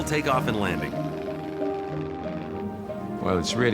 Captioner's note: aircraft roaring